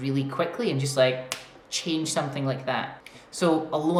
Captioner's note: snaps fingers